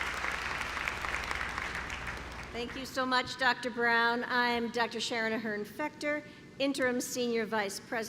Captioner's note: clapping